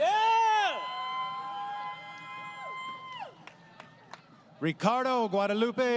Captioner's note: crowd Cheering